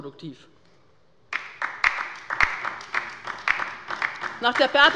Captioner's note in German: Beifall bei der LINKEN